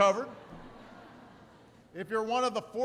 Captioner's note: laughter